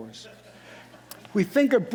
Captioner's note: audience laughing